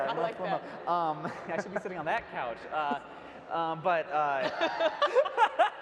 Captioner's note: panel laughs